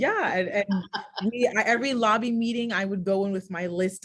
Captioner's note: laughs